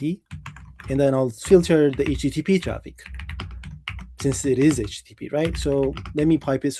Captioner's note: keyboard clicking